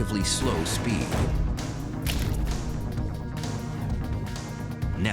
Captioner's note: gun shot